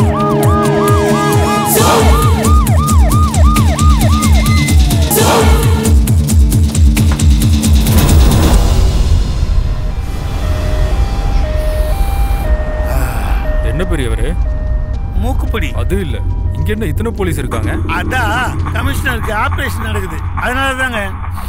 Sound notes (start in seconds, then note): 9.5 ambulance siren wails; 11.6 sniffs